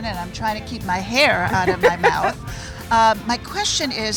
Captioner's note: laughs